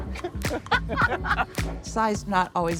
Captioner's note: laughing